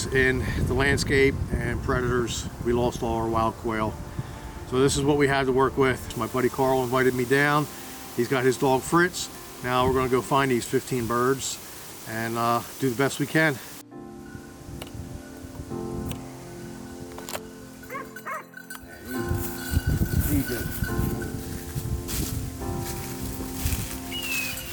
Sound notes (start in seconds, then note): 15.4 bullets clinking; 17.8 gun clinking; 17.9 Fritz barking